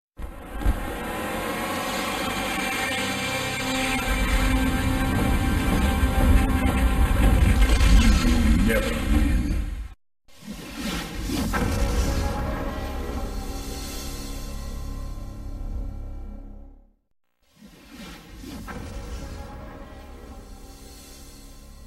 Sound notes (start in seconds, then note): 1.2 32-bit video game music; 10.4 whooshing; 17.5 whooshes